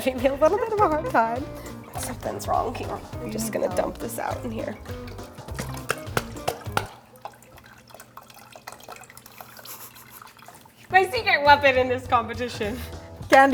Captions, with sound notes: a little bit of a hard time. Somethings wrong here. I'm just gonna dump this out in here. (liquid pouring) (laughs) My secret weapon in this competition.